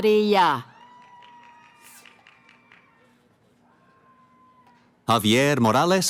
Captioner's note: cheering